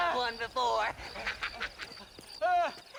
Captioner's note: laughs